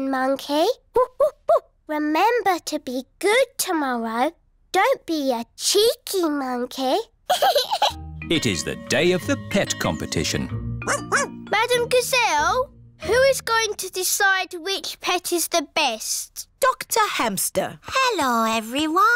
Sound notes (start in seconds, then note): 7.3 giggles; 10.8 barks